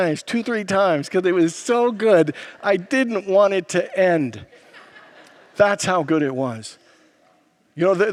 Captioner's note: congregants laugh